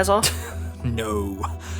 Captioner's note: laughs